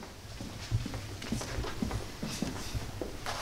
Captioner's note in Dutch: voetstappen